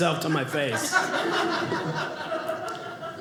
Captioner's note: audience laughing